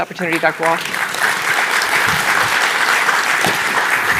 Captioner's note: applause